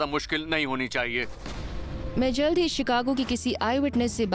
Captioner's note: narrating